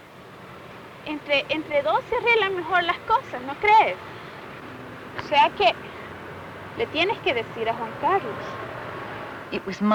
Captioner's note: speaking Spanish